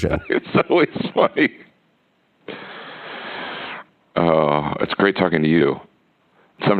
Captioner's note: laughs